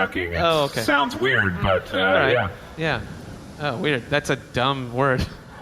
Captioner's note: laughing